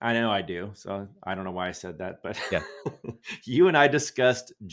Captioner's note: chuckles